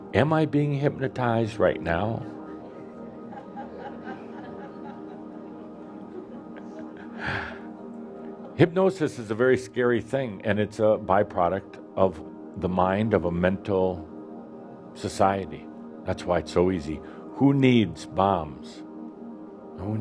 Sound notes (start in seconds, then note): 2.4 some giggles as teasingly waves his hands